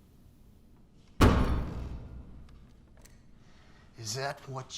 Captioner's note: sheriff's fist pounds